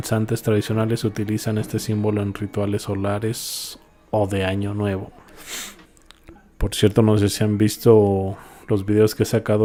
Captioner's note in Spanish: resoplido